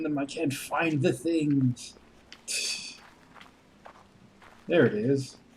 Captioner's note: laughs softly